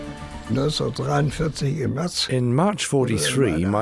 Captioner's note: speaking in foreign language